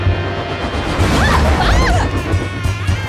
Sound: screaming

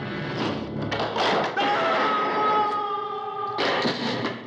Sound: screams

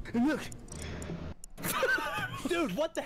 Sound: laughter

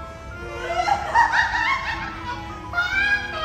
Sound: laughter

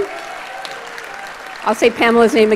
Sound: audience applauds

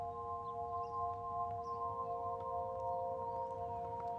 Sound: birds chirping

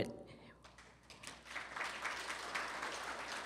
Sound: applause

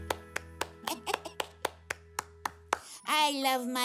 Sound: Tobee laughs

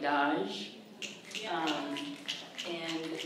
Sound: fingers snapping

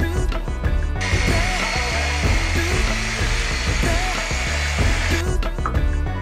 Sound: saw whirring & cutting

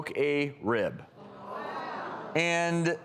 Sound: audience gasps

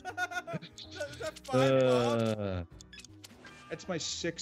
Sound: laugh

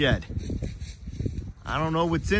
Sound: wind blowing

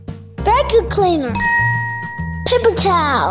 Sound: ding sound effect

